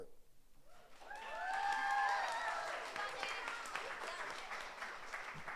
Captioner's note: audience applauds